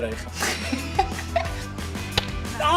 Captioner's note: laughs